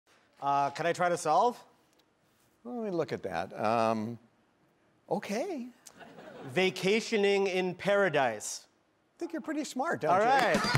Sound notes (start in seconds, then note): 6.0 audience laughing